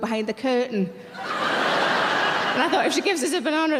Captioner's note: audience laughing